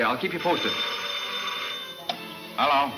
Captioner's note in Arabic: رنين الهاتف